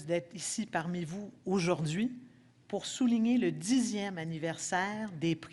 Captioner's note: speaking French